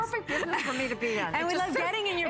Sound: laughter

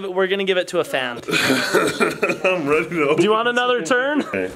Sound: laughter

